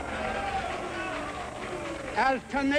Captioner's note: crowd jeering